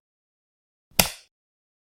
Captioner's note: light switch